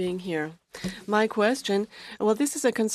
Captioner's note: speaking French